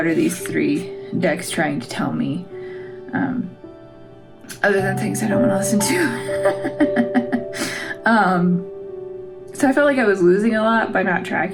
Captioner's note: laugh